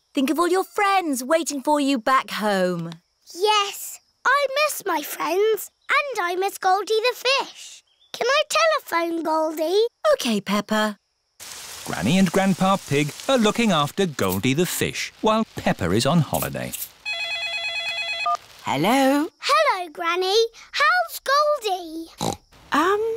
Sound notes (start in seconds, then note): 17.0 phone rings; 22.1 snorts